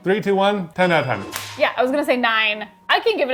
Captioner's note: bell dinging; hands clapping